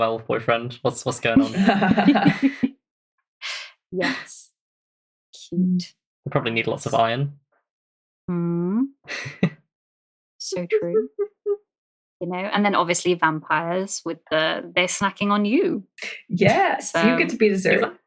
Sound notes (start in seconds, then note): 1.0 laughs